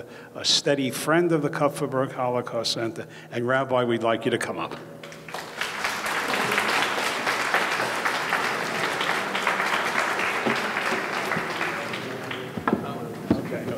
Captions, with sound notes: a steady friend to the Kupferberg Holocaust Center, and Rabbi we'd like you to come up. (audience clapping)